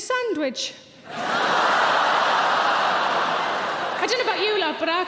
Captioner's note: audience laughing